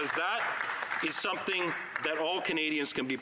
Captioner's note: applause